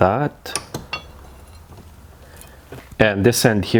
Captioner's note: vise clanging